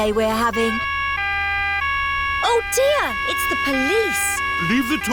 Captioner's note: siren wailing